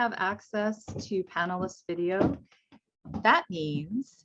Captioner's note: footsteps thumping